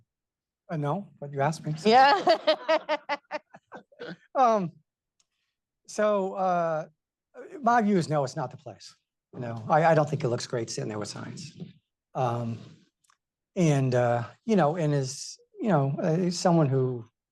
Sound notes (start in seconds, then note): 1.8 laughter